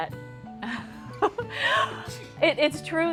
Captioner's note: laughter